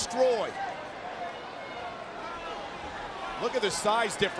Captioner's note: crowd shout